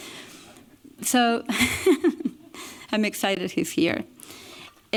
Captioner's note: chuckles